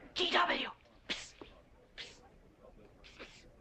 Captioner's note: whispering